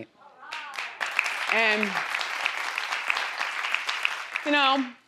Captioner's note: crowd applauding